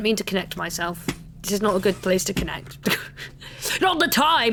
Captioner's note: laughs